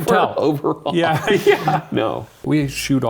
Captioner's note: chuckles